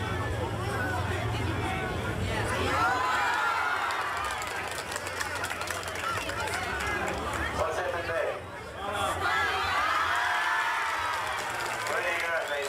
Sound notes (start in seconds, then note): 2.7 crowd erupts in cheers and claps; 10.7 crowd continues clapping